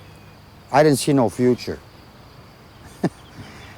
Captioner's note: chuckling